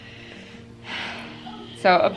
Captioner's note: sighing